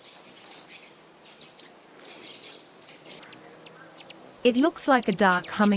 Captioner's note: birds chirping